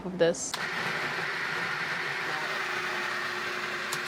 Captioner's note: whirring